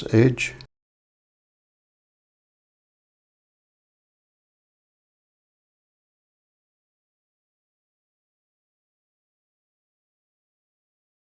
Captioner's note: silence